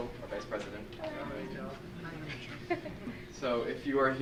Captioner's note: laughs